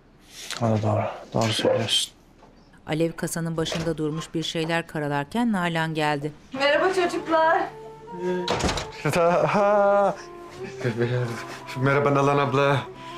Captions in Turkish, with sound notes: O da doğru. Doğru söylüyorsun. (Kapı açılma sesi) Merhaba çocuklar. (Kapı kapanma sesi) Ha... Tövbeler. Merhaba Nalan abla.